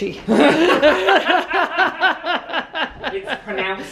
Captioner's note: pair laughing